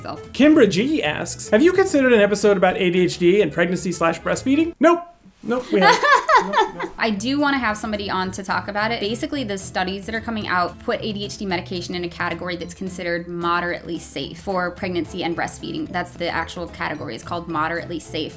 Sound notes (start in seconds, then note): 5.7 laughs